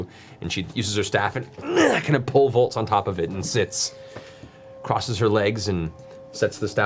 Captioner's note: grunts